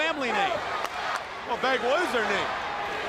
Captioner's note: crowd cheering